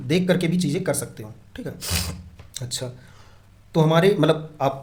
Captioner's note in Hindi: नाक से की जाने वाली आवाज़